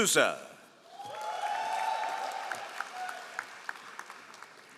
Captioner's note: all applauding